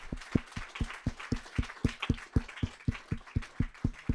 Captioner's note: applause